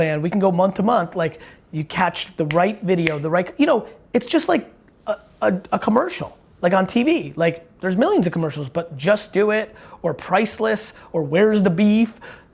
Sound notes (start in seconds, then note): none